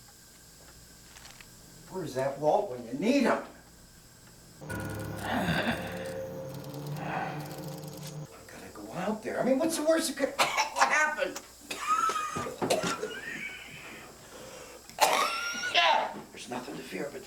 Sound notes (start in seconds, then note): 3.5 grunting; 10.4 coughing; 10.7 continues Coughing